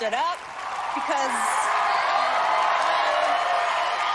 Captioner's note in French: cheering